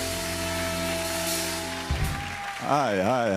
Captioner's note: cheers and applause